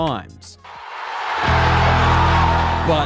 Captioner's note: cheering